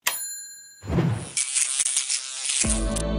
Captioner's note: bell ringing; electrical fizzling; gentle music